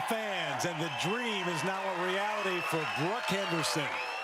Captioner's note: cheers and Applause